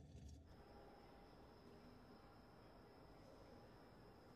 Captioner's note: crickets chirp